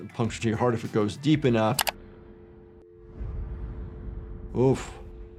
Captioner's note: keyboard clacking